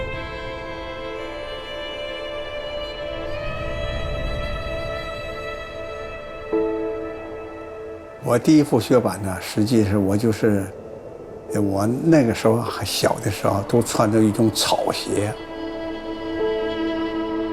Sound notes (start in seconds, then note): 8.4 speaking Chinese: English translation on screen